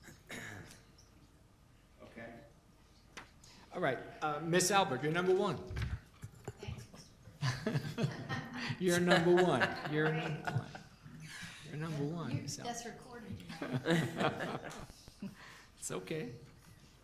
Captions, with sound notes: All right, Ms. Albert, you're number one. (laughter) You're number one, you're... Number one. (laughter) It's okay.